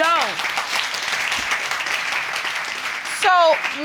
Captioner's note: audience applauding